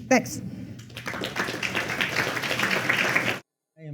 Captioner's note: applause